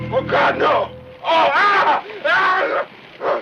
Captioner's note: screams